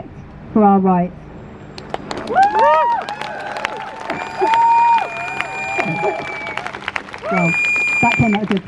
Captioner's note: crowd Cheers